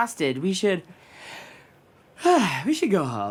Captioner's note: yawn